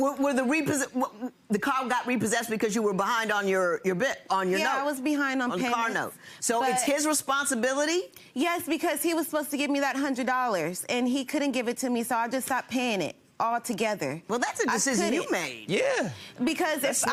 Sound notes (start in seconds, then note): none